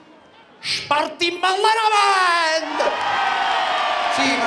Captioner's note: crowd cheers